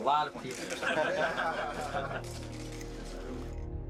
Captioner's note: men laughing